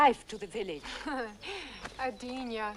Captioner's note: Hundra scoffs